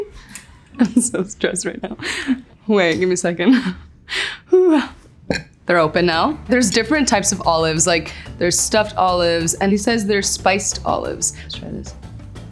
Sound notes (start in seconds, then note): 0.5 giggles; 4.0 exhales; 5.5 jar thuds